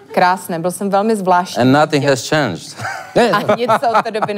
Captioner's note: laugh